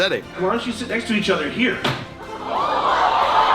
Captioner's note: crack